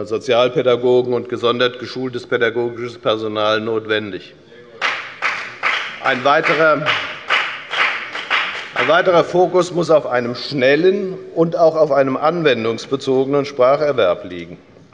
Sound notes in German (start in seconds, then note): 4.8 Beifall bei der FDP